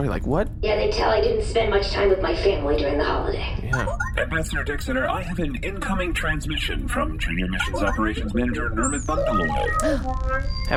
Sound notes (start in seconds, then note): 3.6 beeps and boops of an incoming transmission